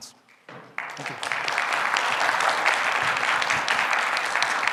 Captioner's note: audience applauding